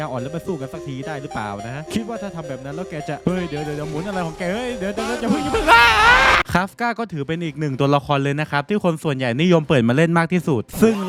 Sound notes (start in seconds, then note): 5.4 uncomically scream